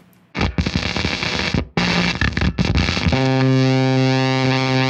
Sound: static noise

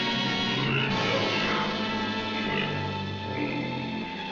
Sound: grunting

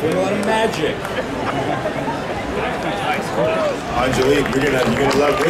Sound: audience chattering

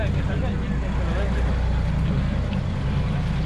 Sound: boat engine idling; speaking in spanish; boat engine idling

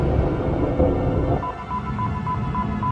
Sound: sonar beeping increases

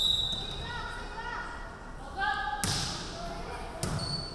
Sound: referee whistling

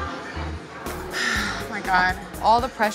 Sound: sighs

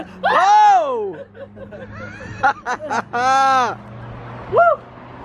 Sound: laughing

